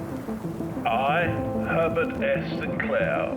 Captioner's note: aged male voice